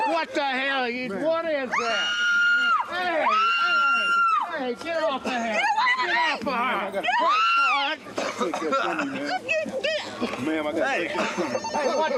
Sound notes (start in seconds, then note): 1.7 screams